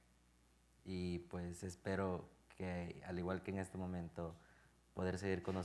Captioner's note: speaking in Spanish